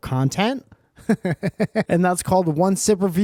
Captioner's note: giggles